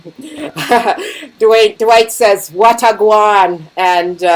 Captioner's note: laughing